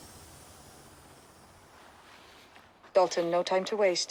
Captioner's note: breathing